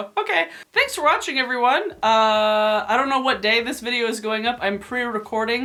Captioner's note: none